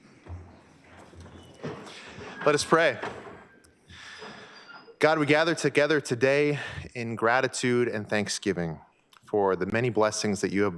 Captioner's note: banging gavel